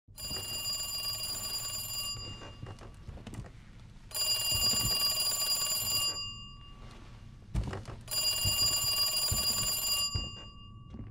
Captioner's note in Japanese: 電話の鳴る音